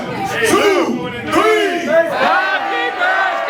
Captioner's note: cheering